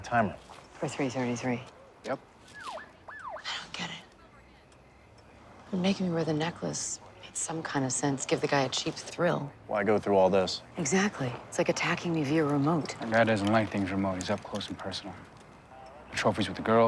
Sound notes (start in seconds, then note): none